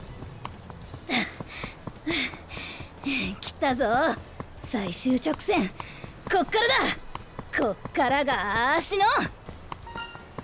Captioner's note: huff